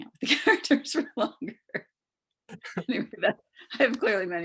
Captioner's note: chuckles